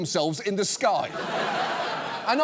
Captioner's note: audience laughs